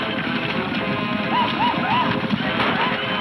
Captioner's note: hooves thudding; men shouting; guns firing